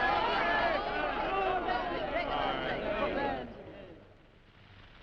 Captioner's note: crowd shouting; fire cracking